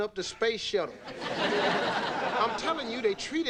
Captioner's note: audience laughing